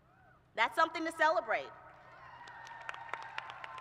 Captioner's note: cheers and applause